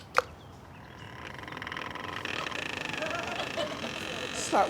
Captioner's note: door creaks